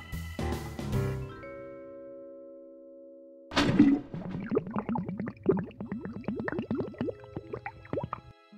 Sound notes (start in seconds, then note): 3.6 paint gurgling